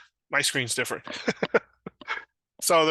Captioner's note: chuckles